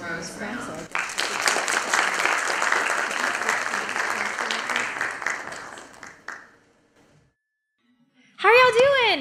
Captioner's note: applause